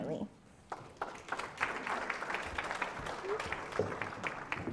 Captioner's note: audience applauds